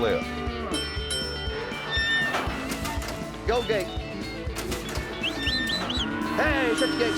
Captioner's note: ding, ding